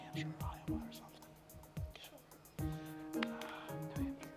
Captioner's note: whispering